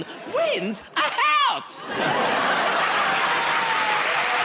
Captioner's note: laughter; cheers and applause